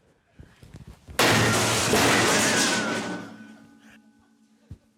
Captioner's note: bin thuds, metal clatters